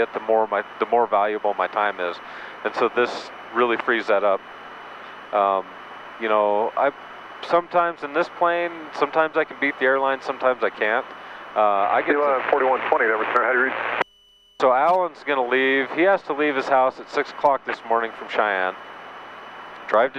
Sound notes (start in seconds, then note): 12.9 man On Radio